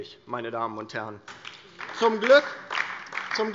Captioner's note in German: Beifall DIE LINKE